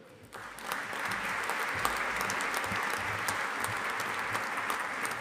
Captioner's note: audience applauding